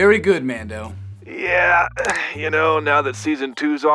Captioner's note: knuckles crack